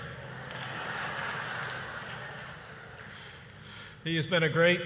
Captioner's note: laughter and applause